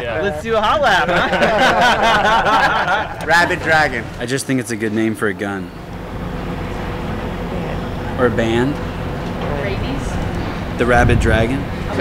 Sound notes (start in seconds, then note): 0.7 laughing